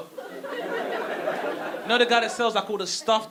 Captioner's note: audience laughing